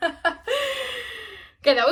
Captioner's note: laughter